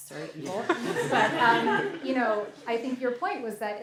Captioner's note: laughter